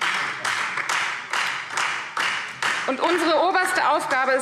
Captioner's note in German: Beifall Freie Demokraten und vereinzelt DIE LINKE